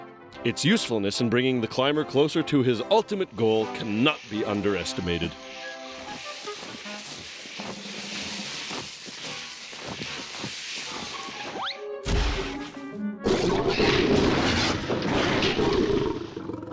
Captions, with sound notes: ITS USEFULNESS IN BRINGING THE CLIMBER CLOSER TO HIS ULTIMATE GOAL CANNOT BE UNDERESTIMATED. (growling, clattering)